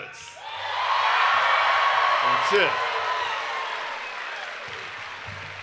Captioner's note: cheering and Applause